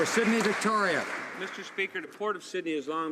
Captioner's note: some Applause